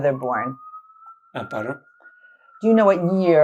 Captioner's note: sirens